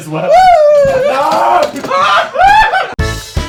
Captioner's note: laughing